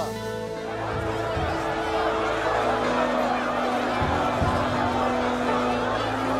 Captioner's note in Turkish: Kalabalık bağrışma sesleri